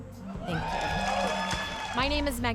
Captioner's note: cheering and applause